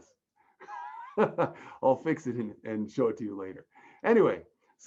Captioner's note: laughs